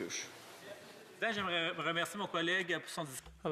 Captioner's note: speaking French